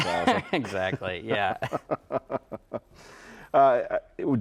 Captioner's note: both laughing